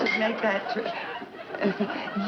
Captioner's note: audience laughing